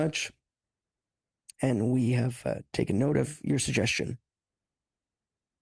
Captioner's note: speaking French